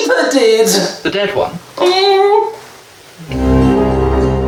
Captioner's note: scared affirmative